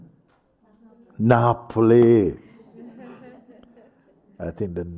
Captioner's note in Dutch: gelach